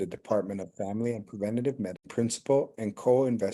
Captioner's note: audio cutting out